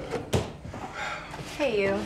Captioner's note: Ben sighs